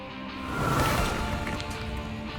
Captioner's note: rock music; swooshing